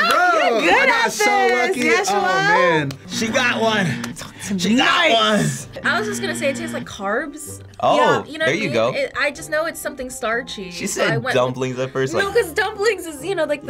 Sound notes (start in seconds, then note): 3.1 buzzer buzzing; 5.8 buzzer buzzing